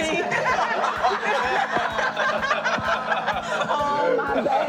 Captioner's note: group laughing